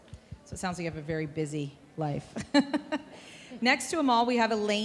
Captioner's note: chuckling